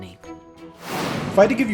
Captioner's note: air whooshing